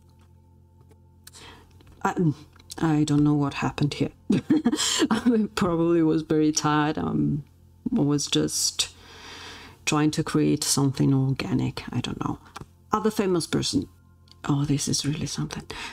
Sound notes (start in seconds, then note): 4.3 laughs